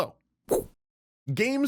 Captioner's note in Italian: woosh